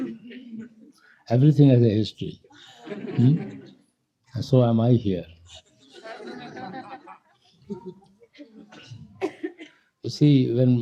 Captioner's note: laughter